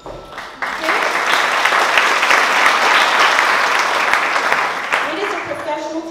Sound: applause

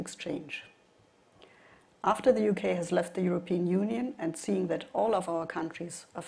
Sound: none

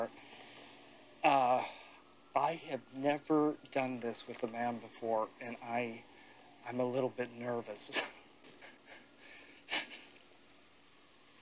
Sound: nervous laughter

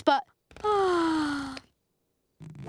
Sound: yawning

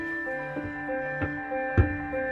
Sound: footsteps; piano music playing

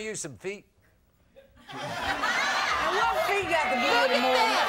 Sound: audience laughs

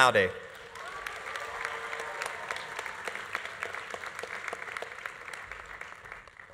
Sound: audience applauding; audience cheering

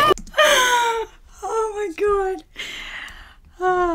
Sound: narrator laughs

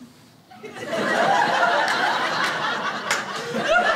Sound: crowd laughs

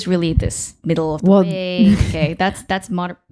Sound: chuckling

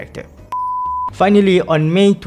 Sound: beep

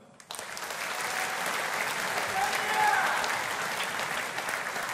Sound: audience applauding

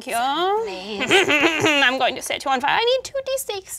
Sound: laughs

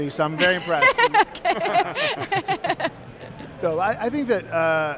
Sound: laughing

